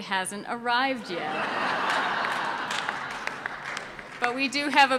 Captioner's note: audience laughs